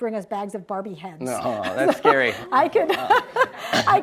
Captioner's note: laughs